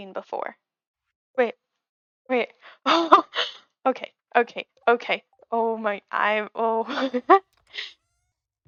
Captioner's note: excited noises